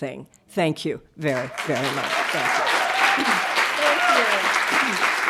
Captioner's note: audience applauding